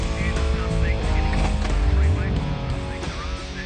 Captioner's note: gears click; car engine whirs